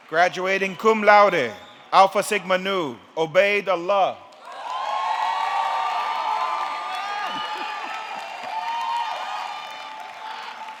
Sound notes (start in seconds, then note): 4.3 audience clapping; 4.4 audience cheering